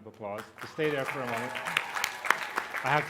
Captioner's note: applause